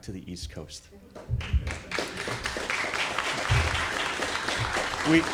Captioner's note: audience applauds